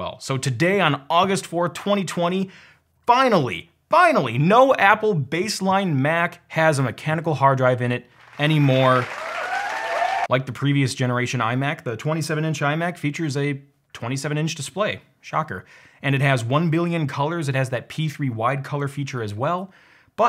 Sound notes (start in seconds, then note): 8.2 cheering